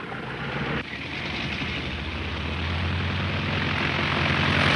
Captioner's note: airplane revving